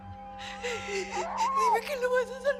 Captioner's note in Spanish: Sollozos